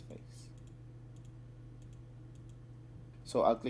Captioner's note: click click clickety